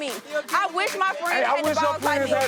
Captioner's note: energetic hip-hop music; people shouting indistinct